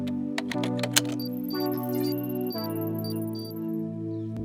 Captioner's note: computer beeps